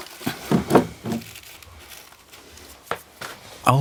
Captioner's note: rustling